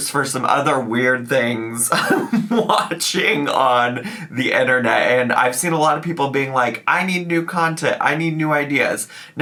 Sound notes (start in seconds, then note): 1.9 laughs